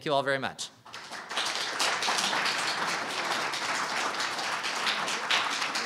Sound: audience applauding

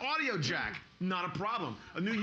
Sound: laughing

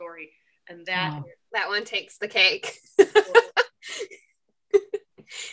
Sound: laughs

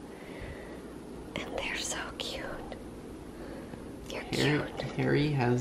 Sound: whispering

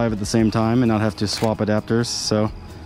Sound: shutter closes

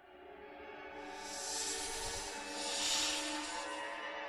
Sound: ominous hissing

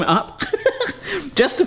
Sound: giggling

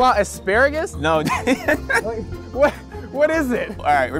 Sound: laughs

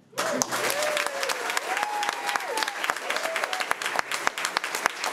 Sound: crowd cheering and clapping

